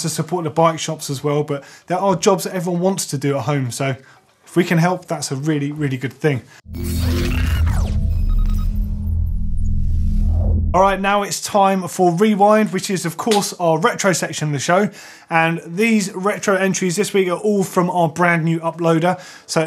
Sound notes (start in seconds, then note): 6.6 electronic sounds